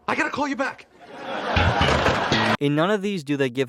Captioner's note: laugh track, stinger